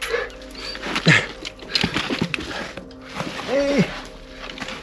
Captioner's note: grunting